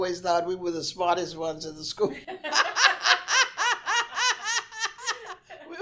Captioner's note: laughs